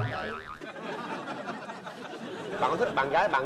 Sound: laughters

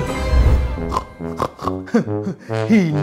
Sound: pig snorts

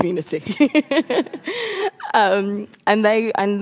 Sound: laughs

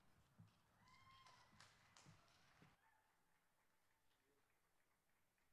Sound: audience cheering

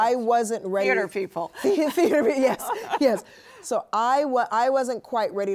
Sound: laughs

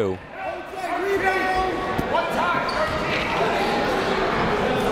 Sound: crowd talking

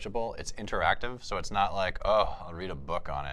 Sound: groans

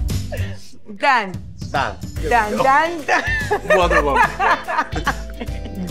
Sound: Gal laughs

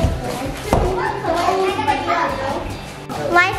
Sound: group chattering

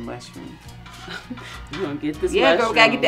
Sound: laughs

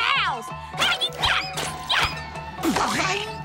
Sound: grunting

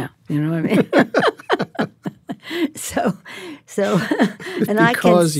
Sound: both laugh

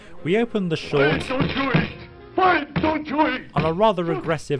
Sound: pounding

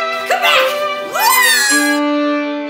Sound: panicked yelp

